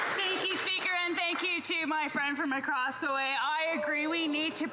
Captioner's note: some Applause